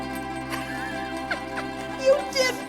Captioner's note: laughing